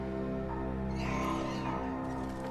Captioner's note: horses neigh